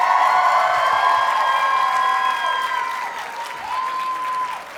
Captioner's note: audience cheers and applauds